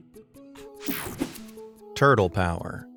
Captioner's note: slide whooshing